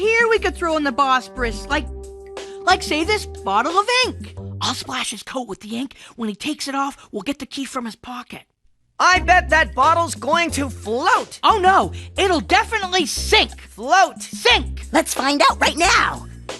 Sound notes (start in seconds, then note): none